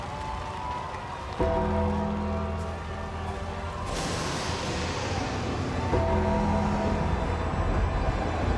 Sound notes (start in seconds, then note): 3.7 thunder cracks